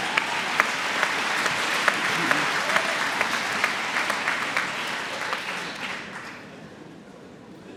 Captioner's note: applause